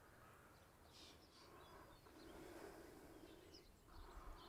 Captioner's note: birds chirping